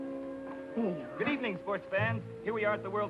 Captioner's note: radio Announcer